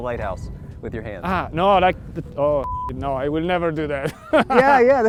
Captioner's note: beep; laughs